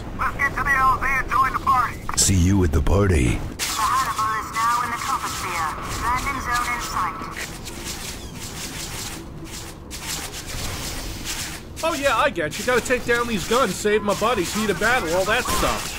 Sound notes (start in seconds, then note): 3.5 HANNIBAL PILOT over the radio